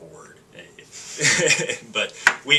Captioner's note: laughing